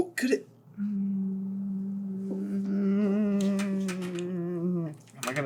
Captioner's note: hums of... support?